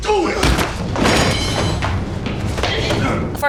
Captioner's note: slam